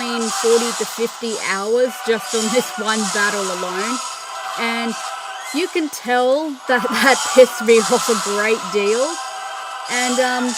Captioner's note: laughter